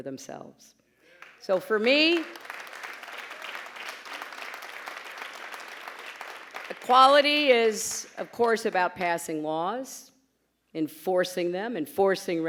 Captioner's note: applause, pause